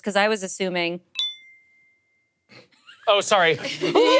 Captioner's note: bell dings